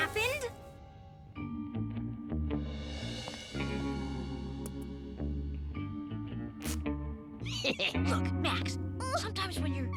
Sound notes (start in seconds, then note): 0.3 suspenseful music; 7.5 evil laughter